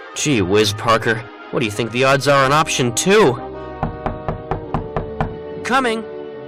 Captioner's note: knock knock